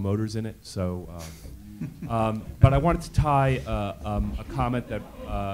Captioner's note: laugh